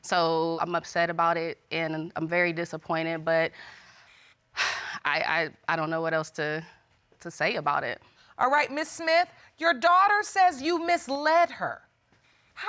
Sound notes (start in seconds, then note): 3.7 exhales